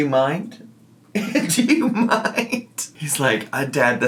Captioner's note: laughing